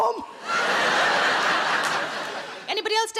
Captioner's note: audience laughing